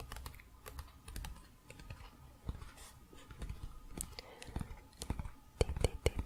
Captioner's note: tapping on pages